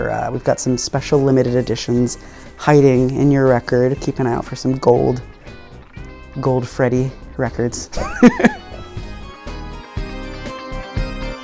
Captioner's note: laughing